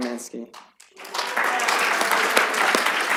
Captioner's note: applause